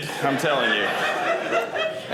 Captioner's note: audience laughing